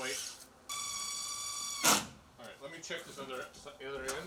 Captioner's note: drill buzzes